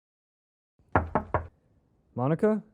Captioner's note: knocking